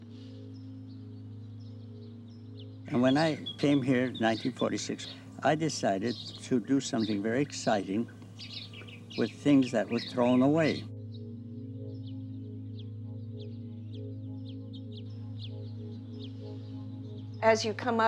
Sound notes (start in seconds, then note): 12.8 birds chirping in the background